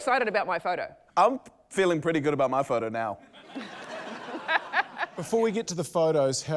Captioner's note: laughter